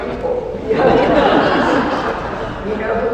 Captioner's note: laughter